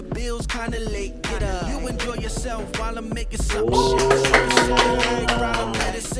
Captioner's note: loud applause